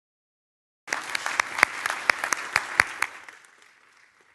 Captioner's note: applauding